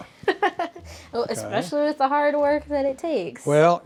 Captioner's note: laughs